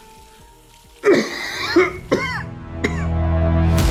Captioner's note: coughs